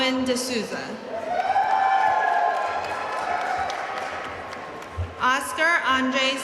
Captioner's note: audience cheering and applauding